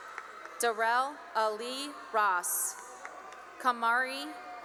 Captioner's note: cheering and applause